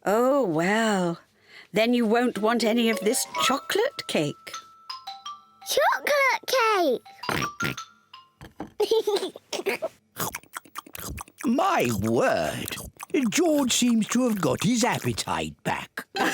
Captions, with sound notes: Oh, well, then you won't want any of this chocolate cake. Chocolate cake! (OINKS) (GIGGLES) My word! George seems to have got his appetite back.